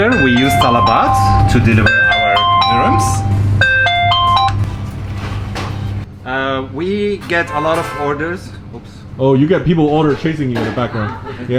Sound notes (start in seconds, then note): 7.3 car honking